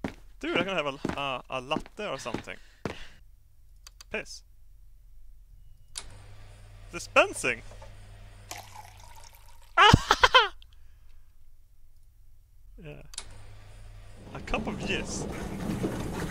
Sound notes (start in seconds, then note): 8.4 liquid pouring from machine; 9.7 laugh in excitement